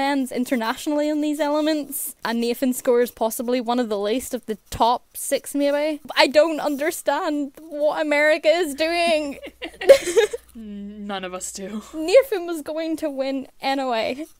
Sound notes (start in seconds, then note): 9.0 hosts laugh